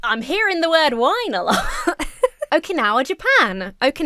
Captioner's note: laughs